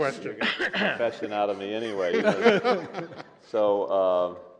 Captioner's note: cough; laughter